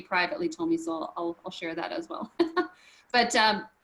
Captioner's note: chuckles